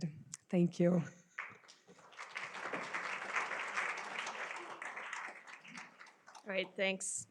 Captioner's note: applause